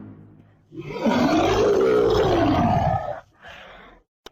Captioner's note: monster Roar